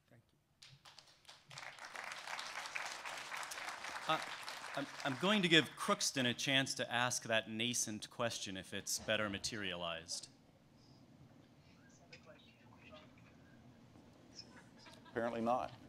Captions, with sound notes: >> THANK YOU. [ Applause ] >> I'M GOING TO GIVE CROOKSTON A QUESTION TO ASK THAT NASCENT QUESTION IF IT'S BETTER MATERIALIZED. >> APPARENTLY NOT.